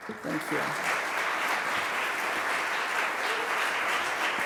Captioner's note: applause